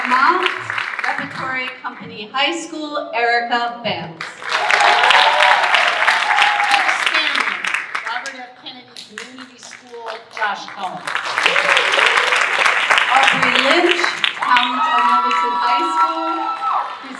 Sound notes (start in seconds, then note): 4.2 audience cheering and applauding; 11.2 audience applauding